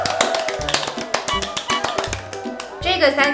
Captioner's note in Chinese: 拍手拍超久